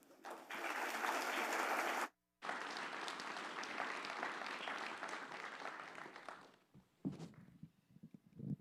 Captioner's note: applause